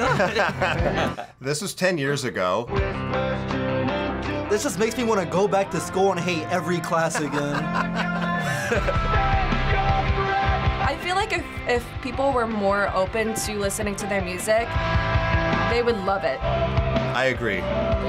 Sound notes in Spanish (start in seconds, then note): 0.0 ambos se ríen; 6.9 risas